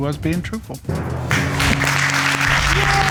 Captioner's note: audience applauding